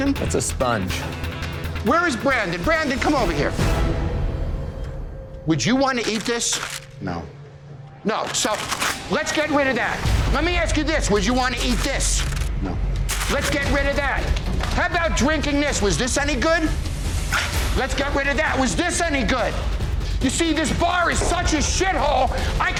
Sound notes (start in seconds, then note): 8.2 paper crinkling; 10.9 dramatic suspenseful music